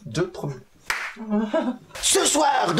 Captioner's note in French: Claquement de main